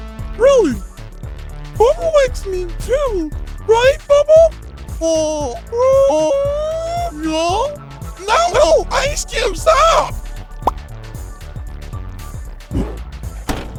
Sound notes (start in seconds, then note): 10.8 pop